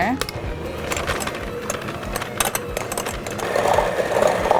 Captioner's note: mixer stirring cream cheese